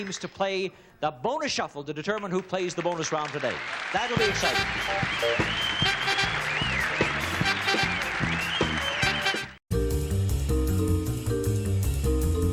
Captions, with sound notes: to play the Bonus Shuffle to determine who plays the bonus round today. That will be exciting. (upbeat music) (audience cheering)